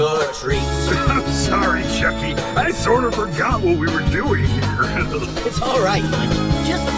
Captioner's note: chuckles